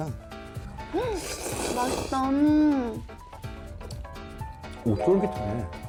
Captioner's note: Slurping up the Hula Ramyun